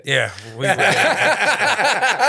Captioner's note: all laughing